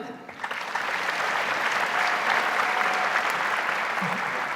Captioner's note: audience applauds